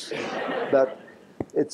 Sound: laughter

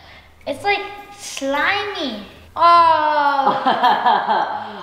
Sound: groans

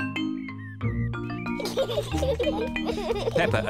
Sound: both giggling

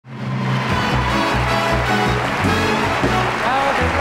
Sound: big band music; audience clapping

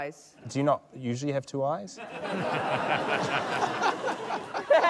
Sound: laughter

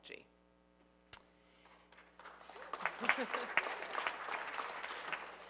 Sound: audience applauding

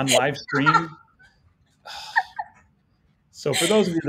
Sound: laughing

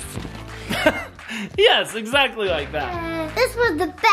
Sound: chuckles

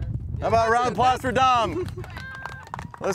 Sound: applause

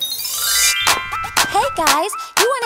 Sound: bells chime

